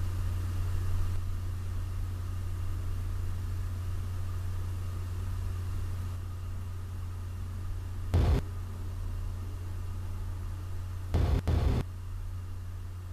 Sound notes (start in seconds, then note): 8.1 static; 11.1 static